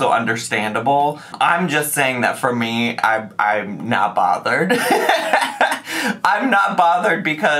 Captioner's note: laughs